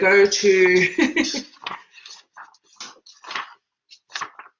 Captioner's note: laughs